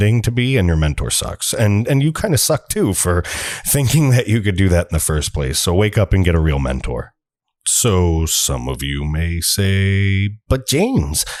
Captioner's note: fake person voice